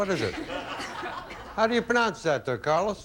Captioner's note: audience laughing